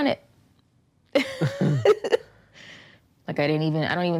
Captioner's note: laughing